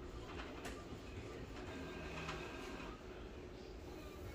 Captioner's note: printer machine sound